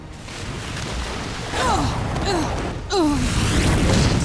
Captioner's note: grunting